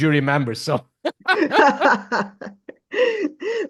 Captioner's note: laughs